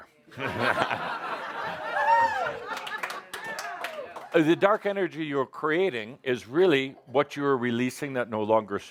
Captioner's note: laughter